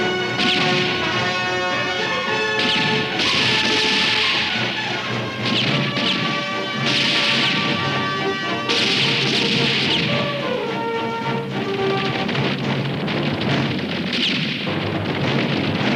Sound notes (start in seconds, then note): 0.0 guns roaring; 1.3 dramatic music continues; 10.7 hooves thudding